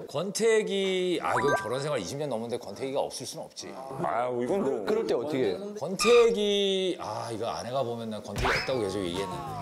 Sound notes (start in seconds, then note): 5.9 hesitant